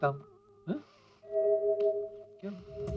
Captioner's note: sniffs